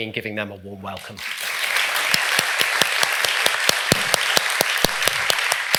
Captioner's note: audience applauding